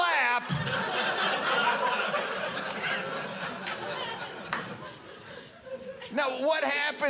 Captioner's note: audience laughing